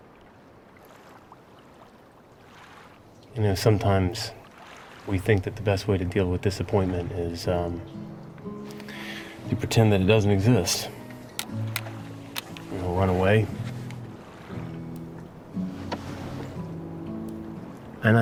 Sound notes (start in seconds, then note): 0.3 waves gently rolling; 12.2 sunglasses clattering